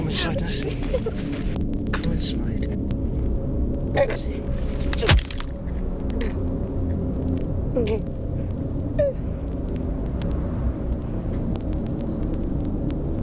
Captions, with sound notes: Come inside to see. Come inside and see. (Sara choking)